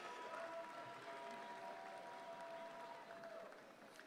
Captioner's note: audience applauds